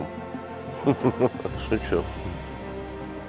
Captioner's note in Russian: смех